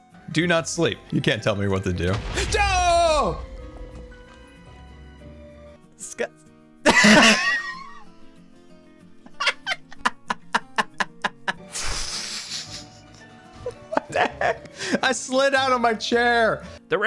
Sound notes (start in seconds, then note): 1.8 explosion; 4.7 shouting; 9.3 laughs; 12.4 laughing